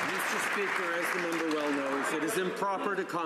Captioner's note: some Applause